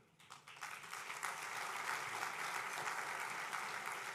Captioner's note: applause